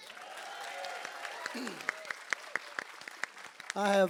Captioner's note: crowd applause